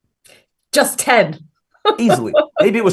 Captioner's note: laughs